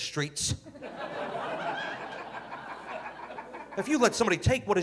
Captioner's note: audience laughing